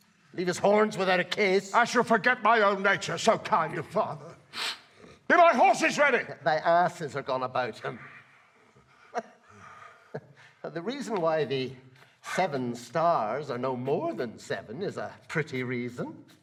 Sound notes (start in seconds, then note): 7.7 laughs